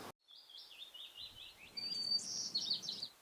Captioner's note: birds chirping